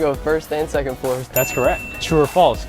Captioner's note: bell Dings